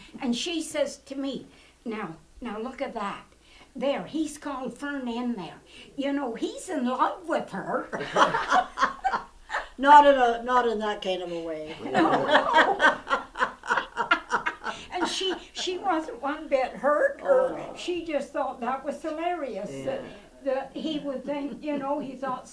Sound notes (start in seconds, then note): 7.9 laughter; 11.7 laughter